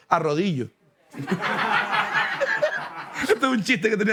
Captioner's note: laughter